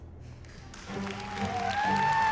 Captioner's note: applause and cheering; dramatic music playing